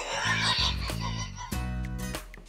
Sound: laughs

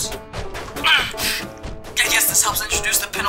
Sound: puerto rico grunts

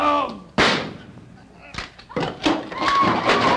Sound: crash and screams

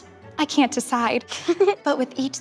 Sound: giggles

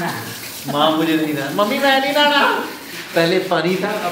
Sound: in my Indian accent

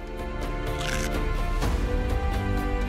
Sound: crunch!

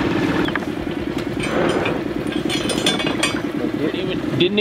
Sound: metals cluttering

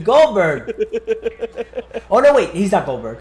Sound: laugh

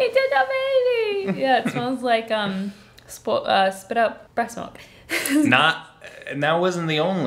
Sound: laughing

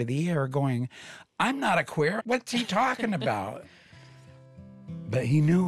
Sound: robin laughs

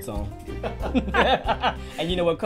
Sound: laughter

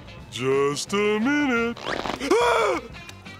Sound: screaming

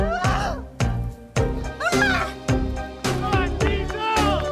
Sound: upbeat music; screams; crowd cheering

